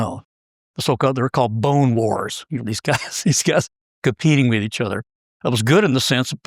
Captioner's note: laugh